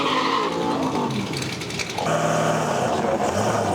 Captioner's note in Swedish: jämrar sig